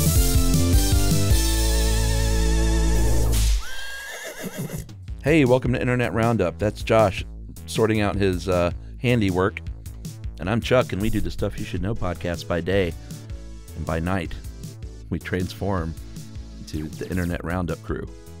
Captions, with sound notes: (horse neighing) - Hey, welcome to Internet Roundup. That's Josh sorting out his handiwork, and I'm Chuck, and we do the Stuff You Should Know podcast by day, and by night we transform into the Internet Roundup crew.